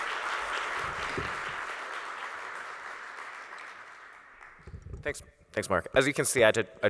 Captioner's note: audience Applauds